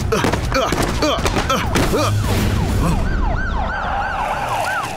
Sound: police siren

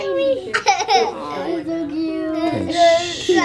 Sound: laughter

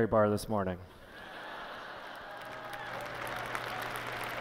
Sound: laughter; applause

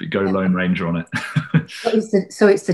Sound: laughs

